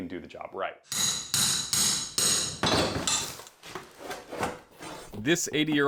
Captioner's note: hammering and prying old flooring